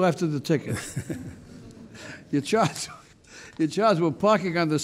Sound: chuckles

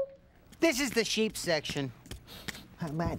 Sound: sniffs

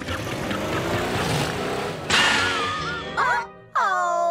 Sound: engine strains, then clangs

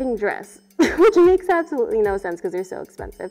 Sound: laughs

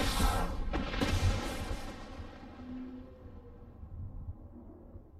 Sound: lightning strikes

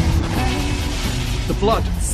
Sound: none

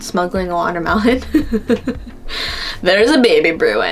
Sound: laughs

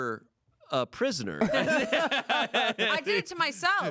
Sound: everyone laughs

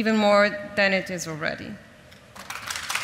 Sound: audience applauds

